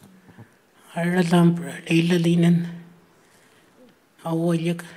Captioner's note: speaking Anmatyerr